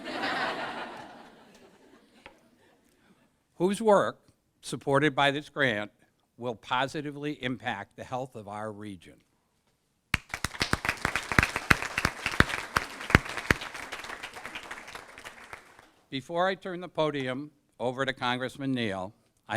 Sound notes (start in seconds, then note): 0.0 laughter; 10.1 applause